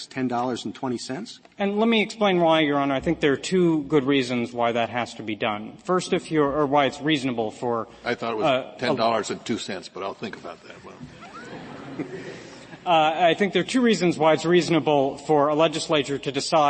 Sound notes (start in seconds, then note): 11.1 laughter